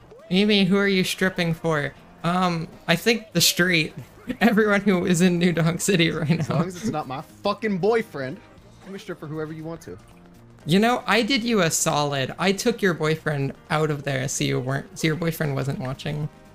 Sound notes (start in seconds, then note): 3.1 laughing